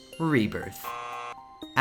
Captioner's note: error sounds